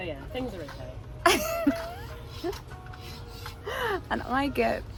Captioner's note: laughing